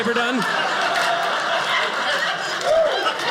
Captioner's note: audience laughing